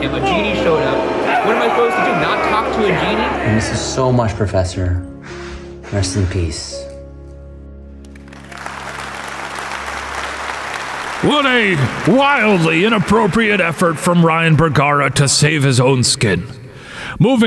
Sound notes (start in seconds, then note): 7.6 gentle music continues; 8.0 crowd clapping